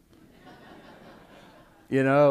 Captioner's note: laughter